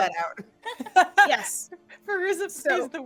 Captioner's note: laughing